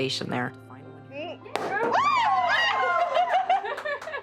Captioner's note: cork popping; cheering